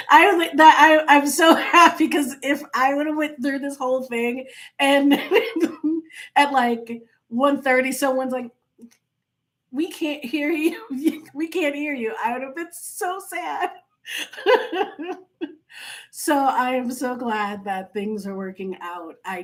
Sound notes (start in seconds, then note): 14.1 laughing